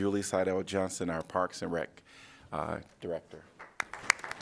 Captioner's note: applause